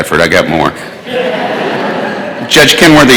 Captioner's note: laughter